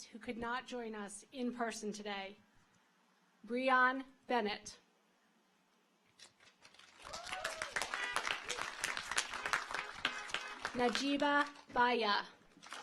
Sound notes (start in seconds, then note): 6.6 audience applauds; 6.9 car horns honking